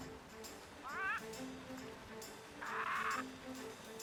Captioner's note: squawking